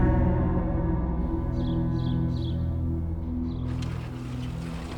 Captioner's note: birds chirp